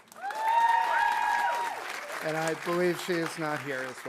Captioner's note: audience applauding; audience cheering